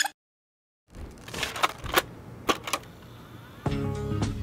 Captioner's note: cassette loading noise